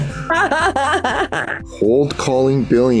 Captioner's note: laughing